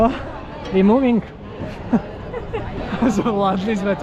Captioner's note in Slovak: smiech